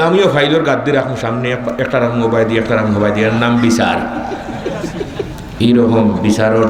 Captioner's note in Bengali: সশব্দ হাসি